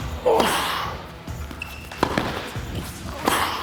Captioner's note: grunts; ball thumping